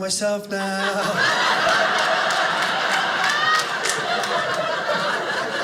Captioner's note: audience laughing